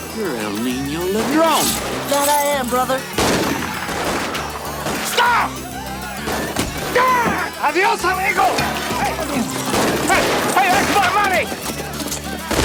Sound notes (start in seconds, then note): 5.1 preacher yelps; 6.8 preacher screams; 9.6 guns fire rapidly